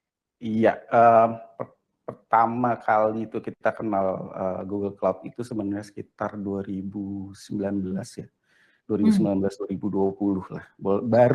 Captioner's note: non-english speech